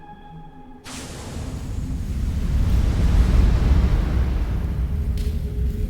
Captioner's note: fire ignites and crackles